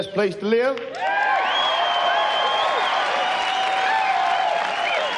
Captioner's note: audience cheers